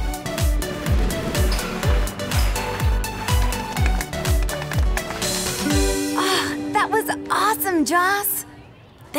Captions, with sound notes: (upbeat music) (girls clap) - That was awesome, Joss.